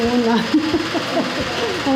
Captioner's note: laughs